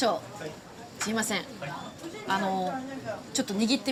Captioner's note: and chef speaking Japanese